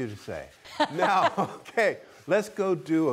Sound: both laugh

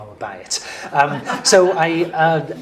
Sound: laugh

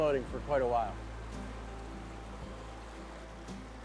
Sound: gurgling water

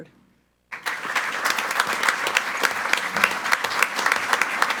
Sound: group applauding

